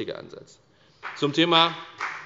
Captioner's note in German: Beifall bei der FDP